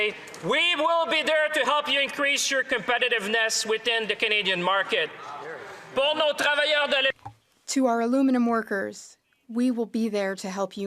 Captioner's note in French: voix de l'interprète